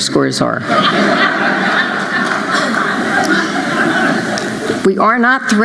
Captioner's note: laughter